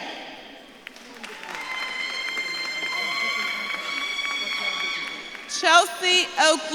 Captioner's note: audience claps and cheers